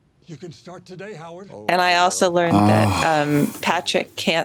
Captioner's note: sighs